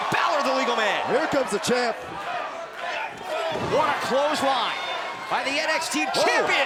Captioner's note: crowd cheering